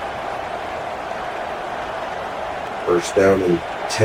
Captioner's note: crowd Noises